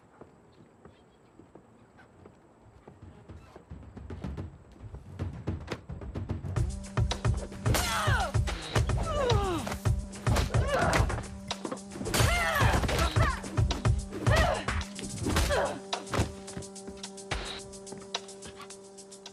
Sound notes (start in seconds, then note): 3.5 tense music; 7.8 glass shattering; 12.1 glass shattering; 14.2 blows thudding; 14.2 tense music